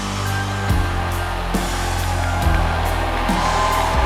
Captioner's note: cheerful music intensifies; audience cheering